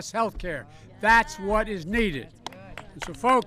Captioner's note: applause